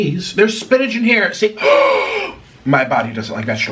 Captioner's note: Nikocado Avocado gasping